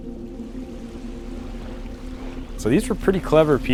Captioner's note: water splashing